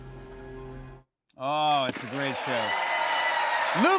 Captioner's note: cheers and applause